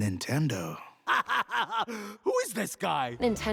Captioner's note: laughs